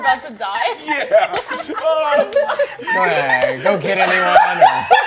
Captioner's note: cackling